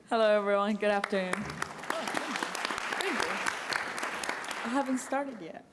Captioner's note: applause